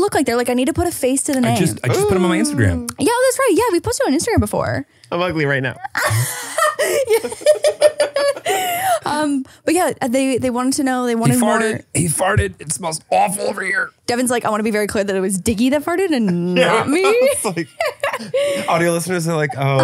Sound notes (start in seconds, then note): 5.8 laughing